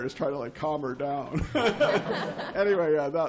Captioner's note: laughter